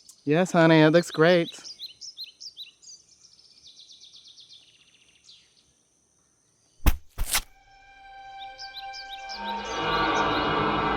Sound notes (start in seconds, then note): 6.8 soft thud; 7.6 mysterious music